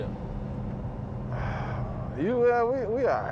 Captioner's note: sighs